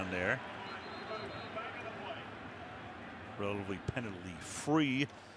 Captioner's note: pa announcement